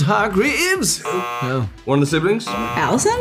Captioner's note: buzzer